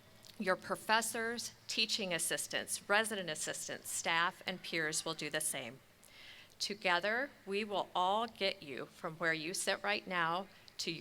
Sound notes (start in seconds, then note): none